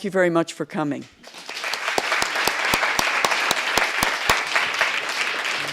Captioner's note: applause